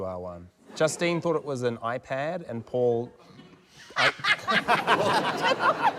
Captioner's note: laughs